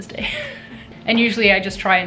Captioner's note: chuckling